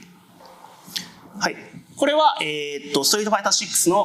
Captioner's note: speaking japanese